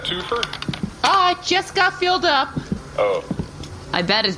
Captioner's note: flips through paper; happily